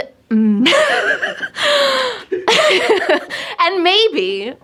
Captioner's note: laughing